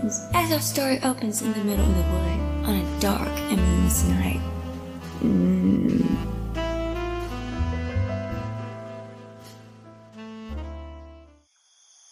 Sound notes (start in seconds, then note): 5.0 moans with delighted pleasure